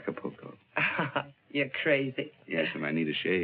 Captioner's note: laughs